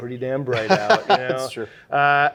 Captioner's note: laughing